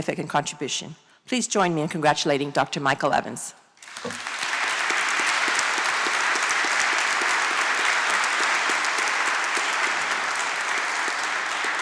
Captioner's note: applause